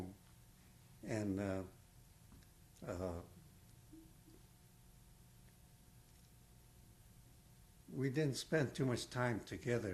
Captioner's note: pauses for 6 seconds